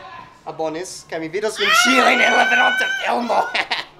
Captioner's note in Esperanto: krio kaj ridego